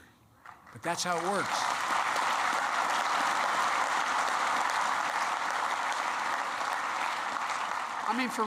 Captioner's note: applause